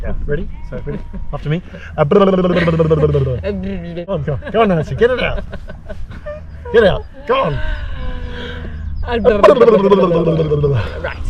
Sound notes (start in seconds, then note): 4.2 laughter